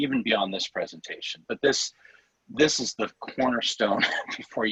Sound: laughter

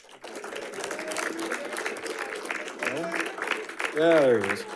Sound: audience applauding

